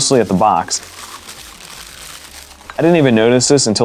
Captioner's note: paper crumpling